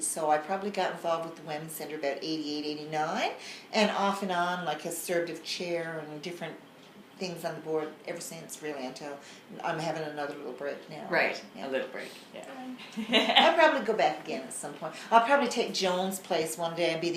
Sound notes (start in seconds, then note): 12.8 laughs